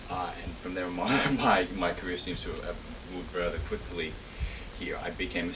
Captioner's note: laughs